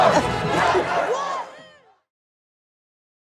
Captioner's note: crowd